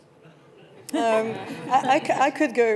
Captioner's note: panellists chuckling